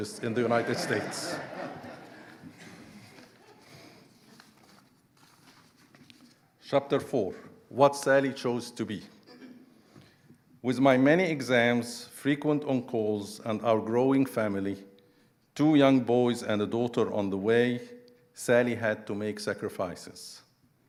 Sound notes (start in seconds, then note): 0.0 audience laughing; 2.9 pages rustling